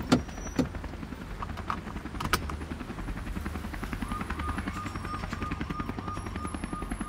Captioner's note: helicopter rumbles; sirens wail